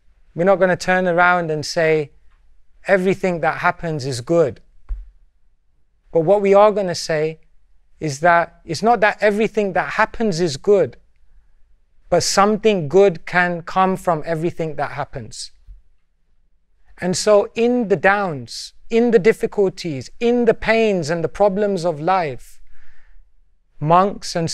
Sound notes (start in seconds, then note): none